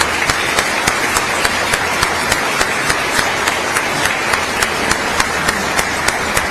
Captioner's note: applause